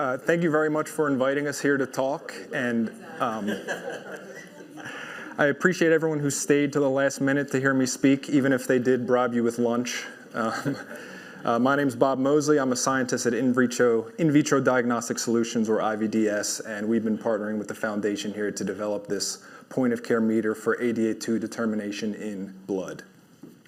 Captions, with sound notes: Thank you very much for inviting us here to talk. [laugher] I appreciate everyone who stayed till the last minute to hear me speak, even if they did bribe you with lunch. [chuckles] My name's Bob Mosley. I'm a scientist at In Vitro Diagnostic Solutions or IVDS, and we've been partnering with the foundation here to develop this point-of-care meter for ADA2 determination in blood.